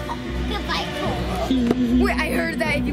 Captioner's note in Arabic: يضحك